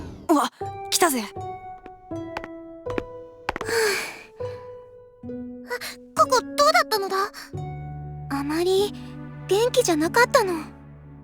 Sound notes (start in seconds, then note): 3.6 sigh